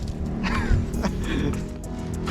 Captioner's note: laugh